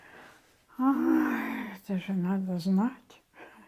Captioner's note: sighing